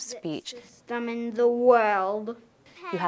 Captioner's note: slurs a little